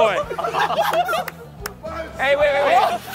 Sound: contestants laughing and clapping

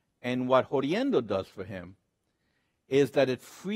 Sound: speaks Spanish

